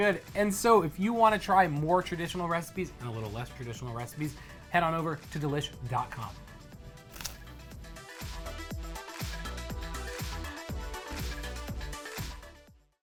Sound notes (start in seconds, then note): 7.1 crunching